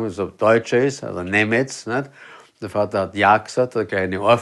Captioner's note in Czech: německy